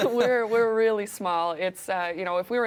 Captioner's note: both laughing